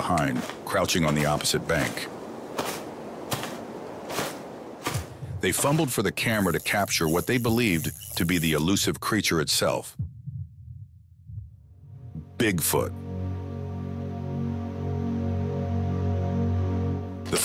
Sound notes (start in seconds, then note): 2.9 undergrowth crunching; 13.6 suspenseful music